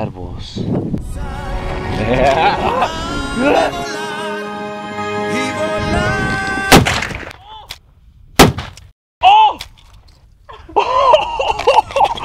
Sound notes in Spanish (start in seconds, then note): 1.0 Musica de fondo; 6.7 Explosion; 10.5 risas